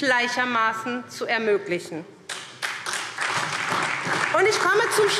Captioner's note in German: Beifall SPD und DIE LINKE